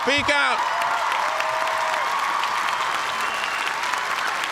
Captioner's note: cheers and applause